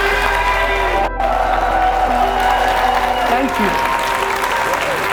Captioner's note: audience cheers